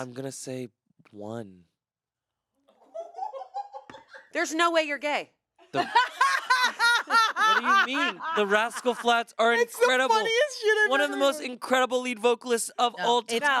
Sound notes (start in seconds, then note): 2.9 crew laughs; 5.7 laughs